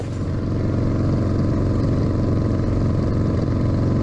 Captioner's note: motorcycle revving